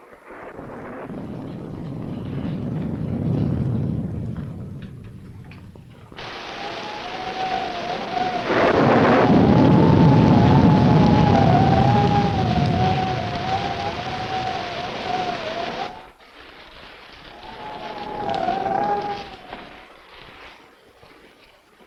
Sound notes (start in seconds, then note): 0.2 thunder rumbling; 6.5 thunder rumbling; 6.5 wind howling